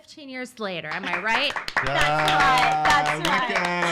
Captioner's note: claps